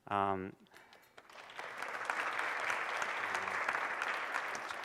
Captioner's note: applause